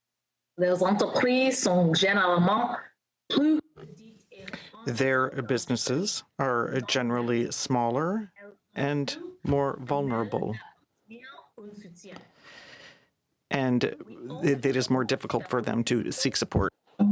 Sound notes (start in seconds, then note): 5.2 speaking french